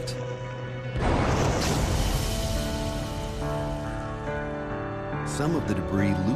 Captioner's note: loud explosion